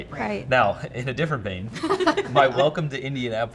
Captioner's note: everyone laughing